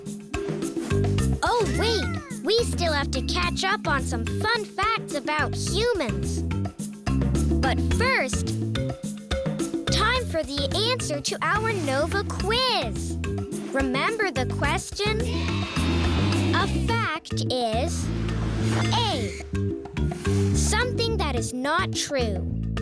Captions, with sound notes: Oh wait, we still have to catch up on some fun facts about humans. But first, time for the answer to our Nova Quiz! Remember the question? (cheering yeahs) A fact is, A, something that is not true,